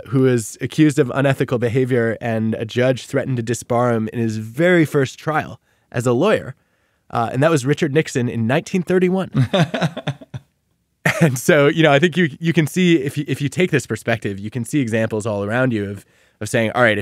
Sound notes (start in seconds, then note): 9.3 laughing